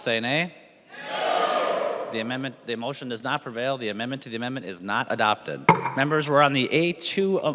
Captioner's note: chorus of ayes